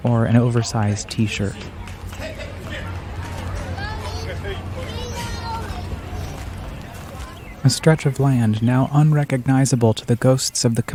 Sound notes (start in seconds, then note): 2.8 fair goers chattering